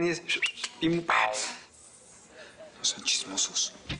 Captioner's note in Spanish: Silbidos